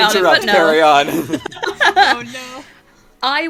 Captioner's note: laughter